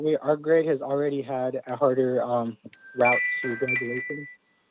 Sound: chime

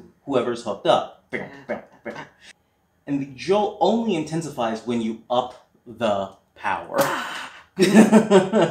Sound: medium scream

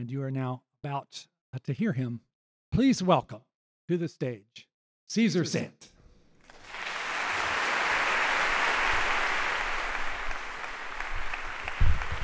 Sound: applause

